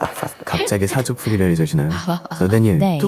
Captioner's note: laughs